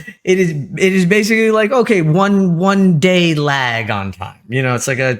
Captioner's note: laugh